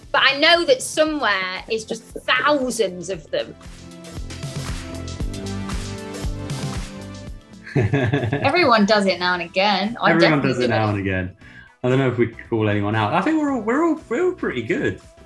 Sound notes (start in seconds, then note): 7.6 laughs